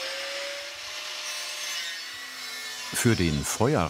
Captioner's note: machine whirring